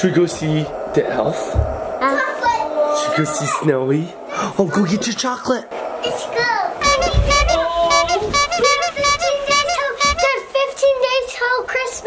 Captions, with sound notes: - Should we go see the elf? - Elf. - Should we go see Snowy? Oh, go get your chocolate. - Let's go. (horn beeping) (person exclaiming) - We have 15 Days till Christmas.